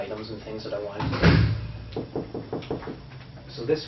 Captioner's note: knock on the door